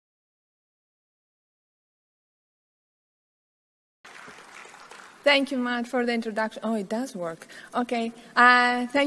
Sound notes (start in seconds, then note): 4.0 audience clapping